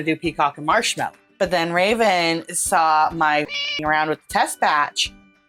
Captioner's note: meow